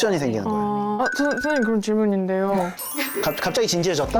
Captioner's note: sound cue: a curious question incoming